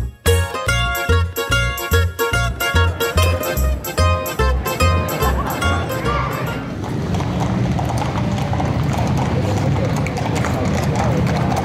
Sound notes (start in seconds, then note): 6.4 sound of horse hooves on pavement